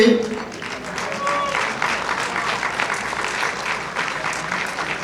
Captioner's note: audience applauding